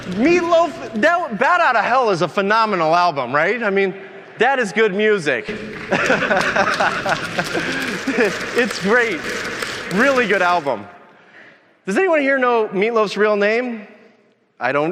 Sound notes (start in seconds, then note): 5.5 audience applauding; 8.9 laughs